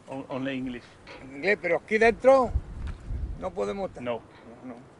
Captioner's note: man speaking in Spanish